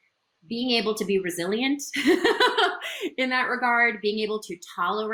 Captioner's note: laughs